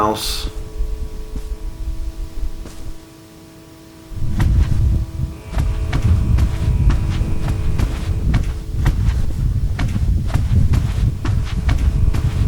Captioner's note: footsteps